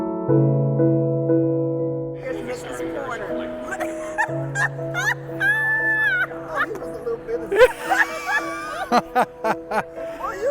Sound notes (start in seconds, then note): 3.9 laughing; 8.0 laughing